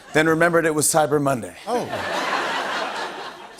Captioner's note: laughter